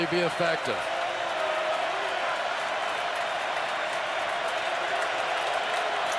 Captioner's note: crowd cheering